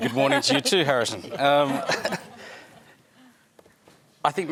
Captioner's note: laughter